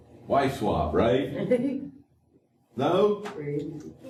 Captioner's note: laughter